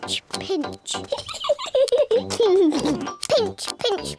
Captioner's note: peppa and george giggle